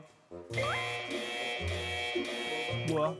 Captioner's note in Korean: 갑자기 울리는 경고 사운드...?